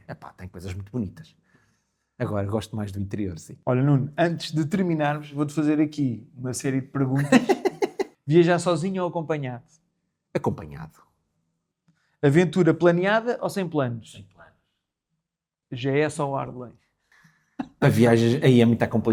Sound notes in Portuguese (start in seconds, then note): 7.1 risadas